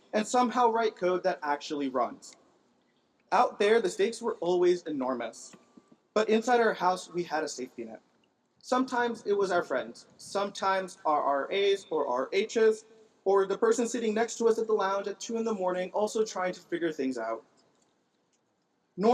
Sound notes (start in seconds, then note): none